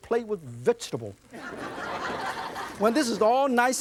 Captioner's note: audience laughs